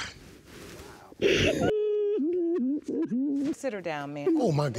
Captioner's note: sobbing